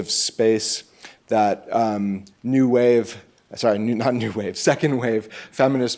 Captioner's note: chuckles